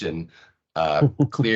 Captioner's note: laughing